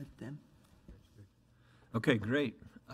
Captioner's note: mumbles